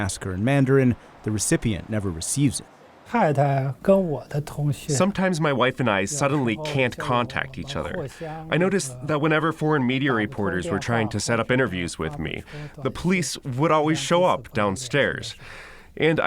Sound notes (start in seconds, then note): 3.7 through translator